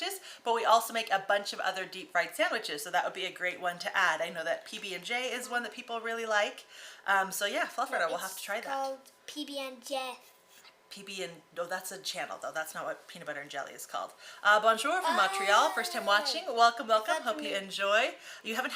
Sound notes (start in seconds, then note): 14.5 speaking in foreign language